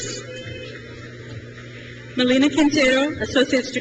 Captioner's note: crowd cheers